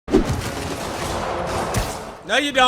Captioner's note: guns bang